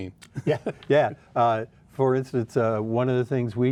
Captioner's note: laughs